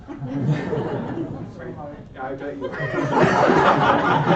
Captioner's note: laughter